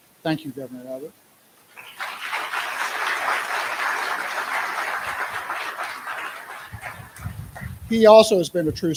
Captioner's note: applause